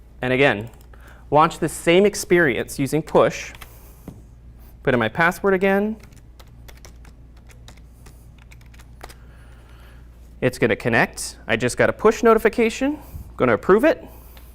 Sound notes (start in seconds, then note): 6.0 keyboard clicking